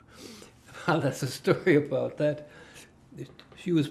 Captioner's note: laughing